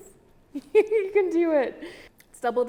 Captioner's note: laughs